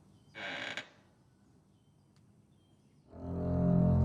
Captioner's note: floorboard creaks; ominous music